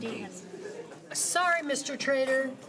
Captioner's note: laughing